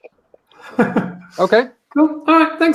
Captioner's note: laughs